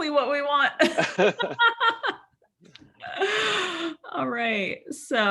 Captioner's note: laughing